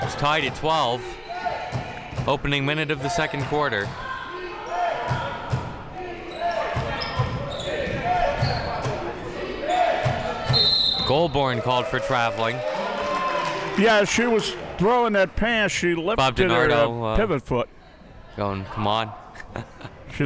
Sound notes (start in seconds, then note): 4.0 spectators chanting defense; 10.5 whistle being blown